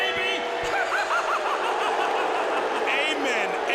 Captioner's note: laughs